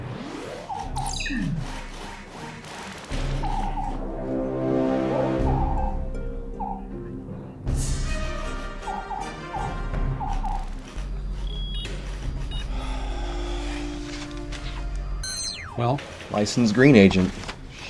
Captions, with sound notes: (phone beeps) (soft music) - Well. - Licensed Green Agent.